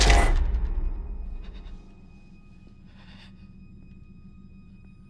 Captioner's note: breath shaking